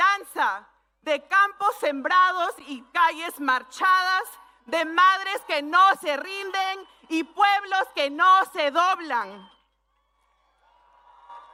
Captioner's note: speaking spanish